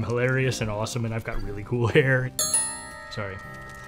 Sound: tink Bells

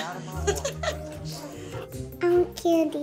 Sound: laughs

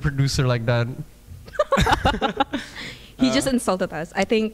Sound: laughing

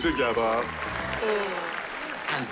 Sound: cheering, applause

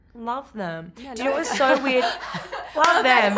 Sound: laughs

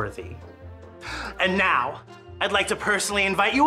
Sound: gasps

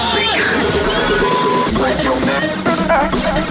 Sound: upbeat music; beep

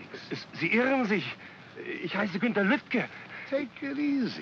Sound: speaking in German

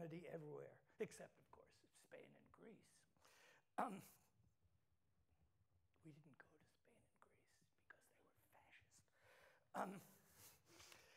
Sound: whispers something

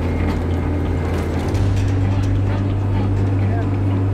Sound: chains clanking; truck engine roaring

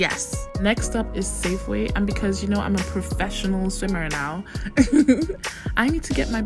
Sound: giggles

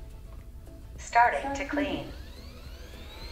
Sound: automated voice

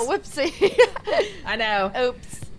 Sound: laugh

